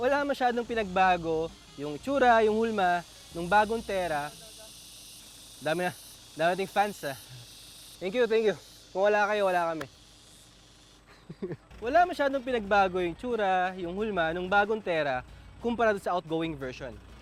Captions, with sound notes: there's not a lot of changes made, including the design and shape of the new Terra... We got a lot of fans, right? Thank you! Thank you! Without you, we wouldn't be here. [chuckles] The design and shape of the new Terra are not really changed as compared to the outgoing version.